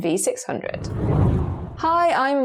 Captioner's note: video effect whooshes